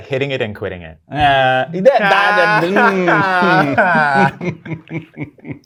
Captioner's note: laughter